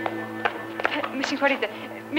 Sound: Greek spoken audio

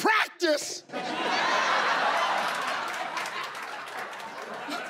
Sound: laughing

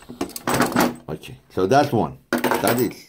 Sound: machine parts clanging

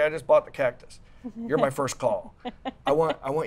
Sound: laughs

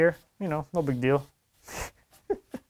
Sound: chuckles

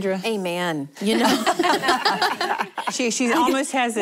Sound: laughter

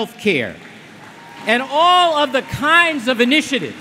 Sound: applause

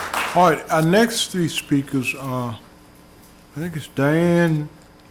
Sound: applause

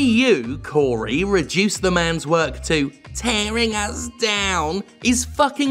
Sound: mocking

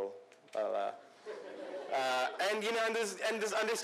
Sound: laughter

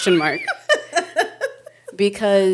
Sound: laughing

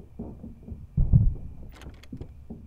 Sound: thud

